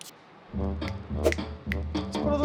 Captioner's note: snaps